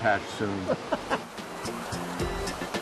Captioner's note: laughs